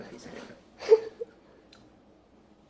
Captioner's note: laughs